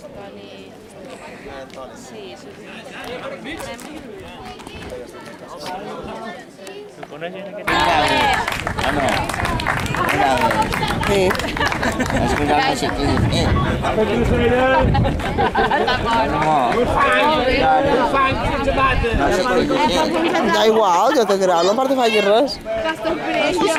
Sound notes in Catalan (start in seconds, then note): 7.6 Gent aplaudit